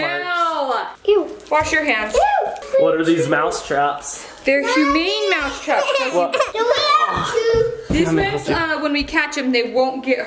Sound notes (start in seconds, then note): 5.5 crying